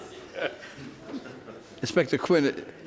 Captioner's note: laughs; audience laughs